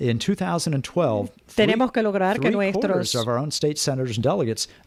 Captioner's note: Hablando ingl\s